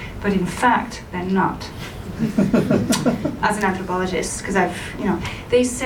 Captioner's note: laughter